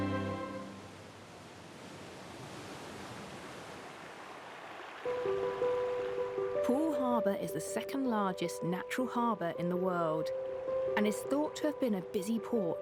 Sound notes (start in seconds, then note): 0.0 waves roaring; 3.4 water trickling; 4.8 gentle music